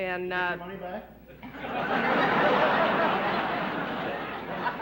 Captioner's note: laughter